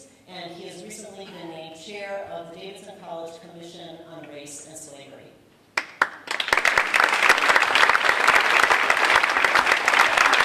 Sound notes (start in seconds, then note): 5.8 audience applauding